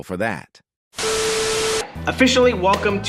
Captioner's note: static